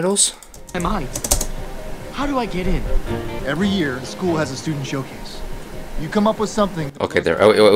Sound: speaking English

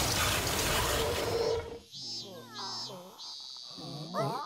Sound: crickets chirping

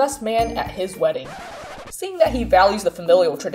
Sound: record scratch

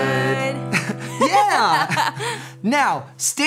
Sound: laughing

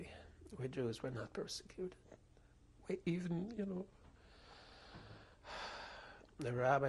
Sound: sighs

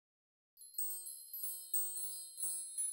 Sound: tinkling chimes

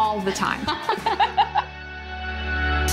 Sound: laughs; upbeat music

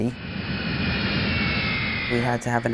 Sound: engine roaring

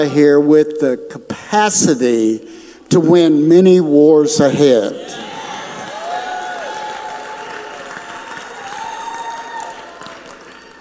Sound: audience applauds

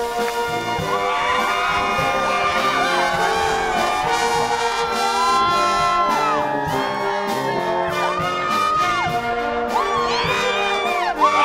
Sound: applause

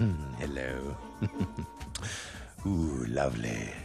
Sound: giggles

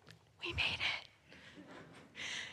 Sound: whispering

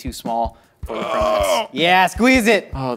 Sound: groans

